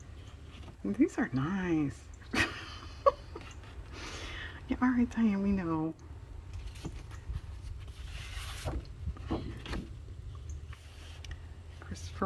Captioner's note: laughs